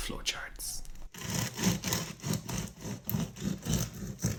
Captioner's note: bread crunching